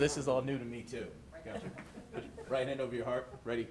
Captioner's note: participants chuckling